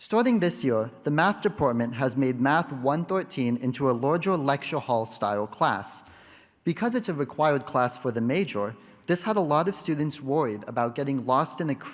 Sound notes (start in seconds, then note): none